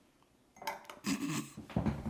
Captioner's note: clink. Snorting laughter